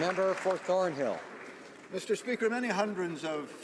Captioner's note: some Applause